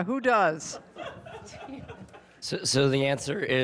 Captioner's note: audience laughing